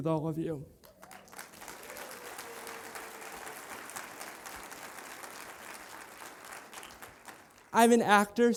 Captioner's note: applause